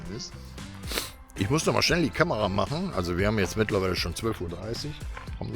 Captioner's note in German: schnauben